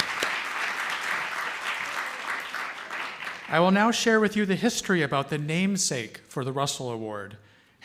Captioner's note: applause